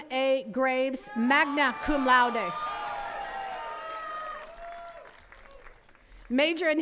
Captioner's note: attendees cheers and claps